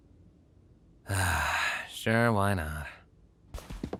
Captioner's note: sighs